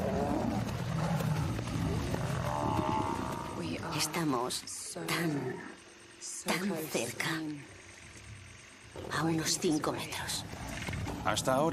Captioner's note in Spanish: gemido